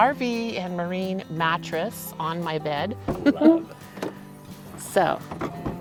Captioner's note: laughs